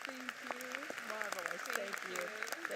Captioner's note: audience applauds